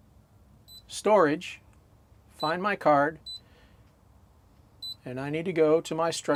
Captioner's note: beeping; beeping